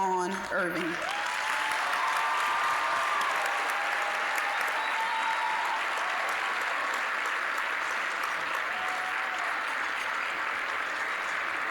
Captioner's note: applause, cheering; applause